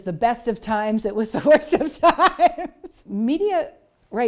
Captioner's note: laughs